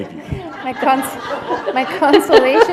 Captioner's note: laughter